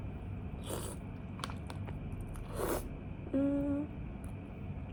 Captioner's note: slurping noise